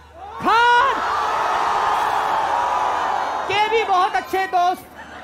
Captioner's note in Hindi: चियरिंग